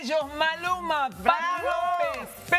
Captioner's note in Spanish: aplausos